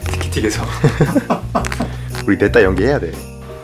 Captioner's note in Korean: 웃음소리